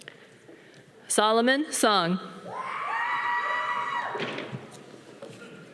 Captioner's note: audience cheering